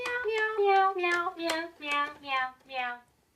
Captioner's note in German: In unterschiedlicher Tonlage